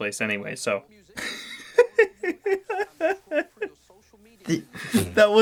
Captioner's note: laughs in rapid disclaimers